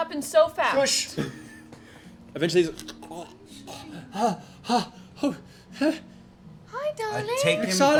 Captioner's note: panting